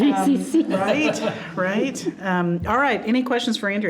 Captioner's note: all laughing